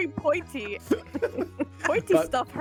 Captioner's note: laughs